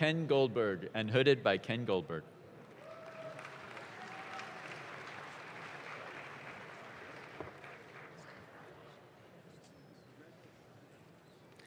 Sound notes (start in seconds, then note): 2.7 audience claps